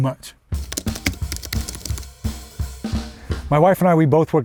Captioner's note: keyboard clacking; upbeat music